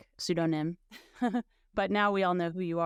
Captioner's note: laughing